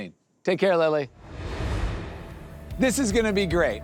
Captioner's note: air whooshes